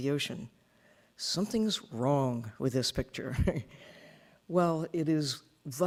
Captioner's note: chuckling